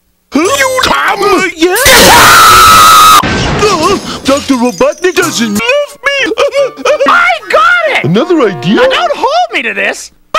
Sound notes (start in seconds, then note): 6.5 crying